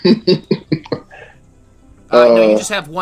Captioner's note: laughter